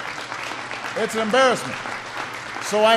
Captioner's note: applause